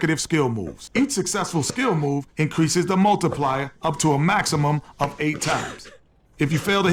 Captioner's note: laughs